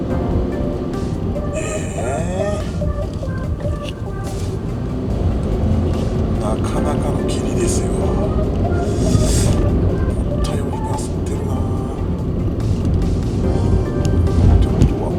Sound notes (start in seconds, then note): 8.5 laughs